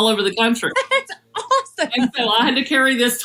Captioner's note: laugh